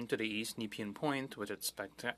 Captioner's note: speaking French